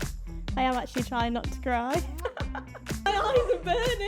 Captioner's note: laughs